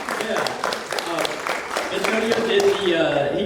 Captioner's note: audience applauding